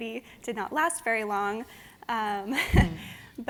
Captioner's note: laughs